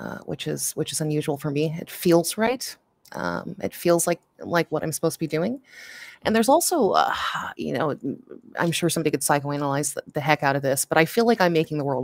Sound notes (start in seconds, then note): none